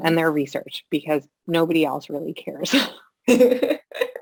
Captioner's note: laughter